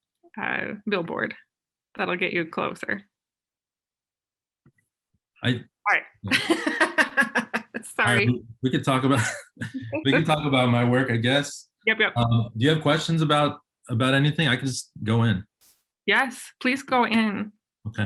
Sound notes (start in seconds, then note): 6.3 laughs; 8.9 chuckles